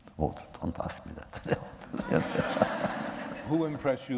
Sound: laughter

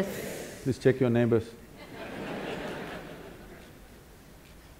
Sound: laughter

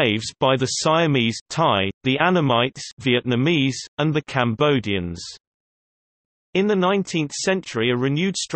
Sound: Vietnamese

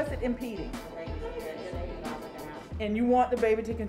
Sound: class chattering

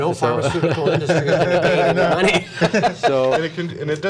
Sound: laughter

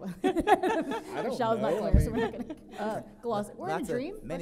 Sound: characters chatter

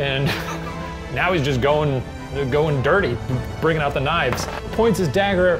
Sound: laughs

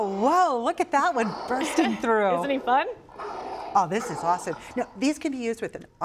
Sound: dinosaur roaring

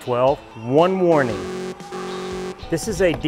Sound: alarm buzzing

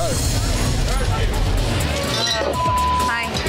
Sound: crowd chatting

